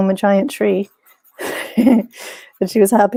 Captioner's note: chuckles